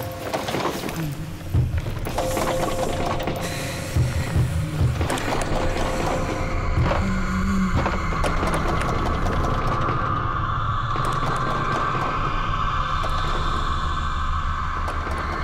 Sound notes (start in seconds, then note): 2.1 church bells ringing; 5.1 pounding; 11.9 suspenseful music